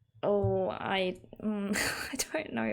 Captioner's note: laughs